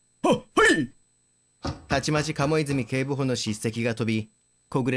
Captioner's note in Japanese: 走り出す足音：ダダダッ！